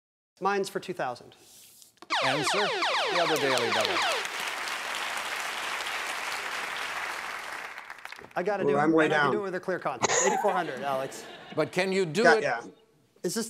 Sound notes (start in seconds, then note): 2.1 laser sound effect; 3.2 audience applauding; 10.0 James laughs